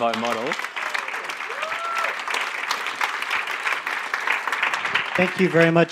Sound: audience applauding

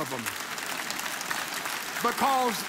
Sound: audience laughs and applauds

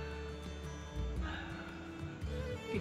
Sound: sigh

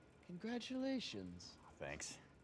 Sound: none

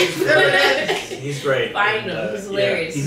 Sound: laughing

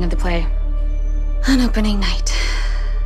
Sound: sighs

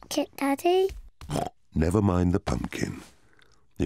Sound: snorts

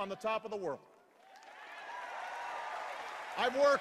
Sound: cheers and applause

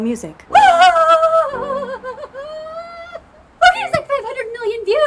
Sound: screams in excitement

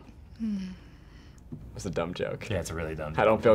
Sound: FBE sighs

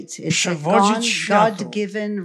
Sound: foreign language

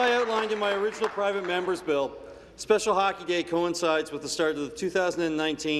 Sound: applause

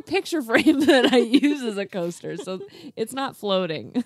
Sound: laughs

